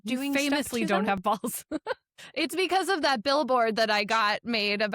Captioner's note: chuckles